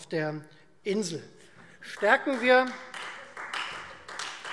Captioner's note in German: Beifall Freie Demokraten